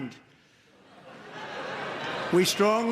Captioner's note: audience murmurs